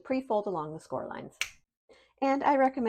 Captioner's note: fingers snapping